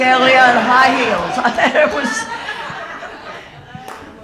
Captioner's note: audience laughing